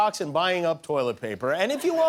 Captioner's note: laughter